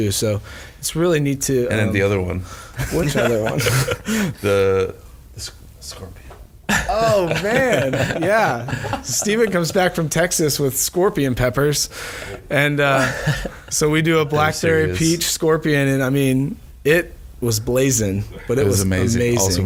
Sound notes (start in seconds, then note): 2.8 all chuckling; 6.7 both laughing